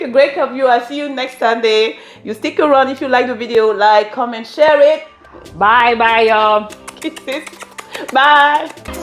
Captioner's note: kisses